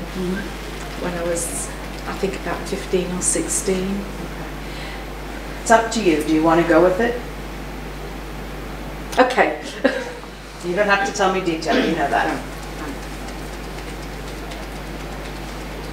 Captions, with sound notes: when I was, I think about 15 or 16. - Okay. It's up to you. Do you want to go with it? - Okay. (laughs) - You don't have to tell me detail, you know that. (fingers tapping)